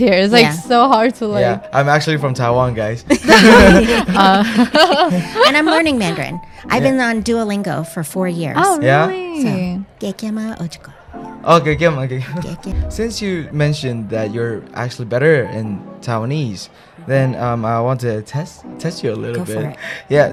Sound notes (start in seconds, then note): 3.2 laughing; 9.6 Taiwanese